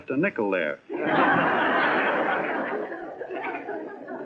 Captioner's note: laughing